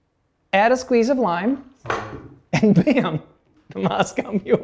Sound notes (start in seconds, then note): 2.5 laughter